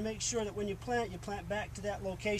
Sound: none

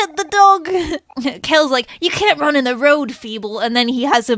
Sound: laughs

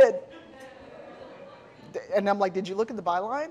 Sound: audience laughing

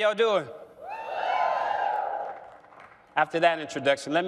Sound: cheering

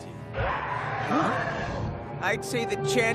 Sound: dragon roaring

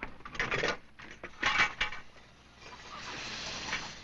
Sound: clanking

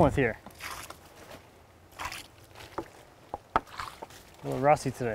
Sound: water splashing

